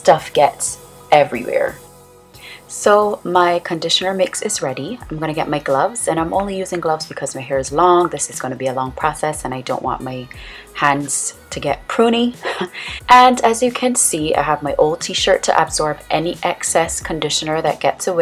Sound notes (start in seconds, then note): 12.4 giggle